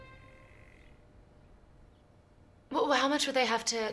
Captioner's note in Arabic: الطنين